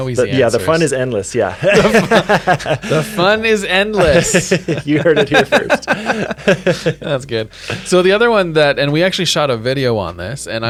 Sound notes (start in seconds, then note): 1.5 both laugh